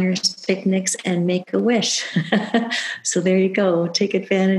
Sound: laughs

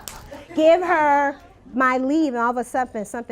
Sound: laughter

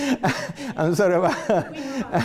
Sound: laughs

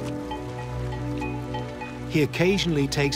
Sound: bell clanging

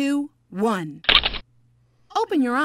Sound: shutters click

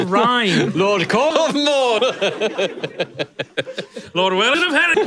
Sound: laughs

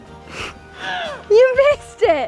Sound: grunting

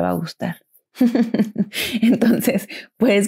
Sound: evil laugh

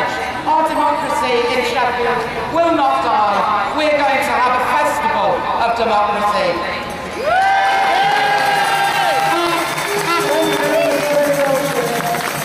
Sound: loud cheers

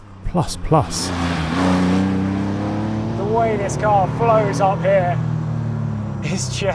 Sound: engine roars

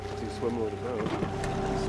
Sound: creaking; trolling motor humming

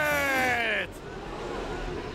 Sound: audience gasps

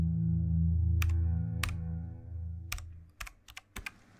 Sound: keyboard typing

